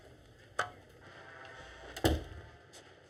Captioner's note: door closes